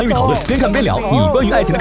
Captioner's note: complaining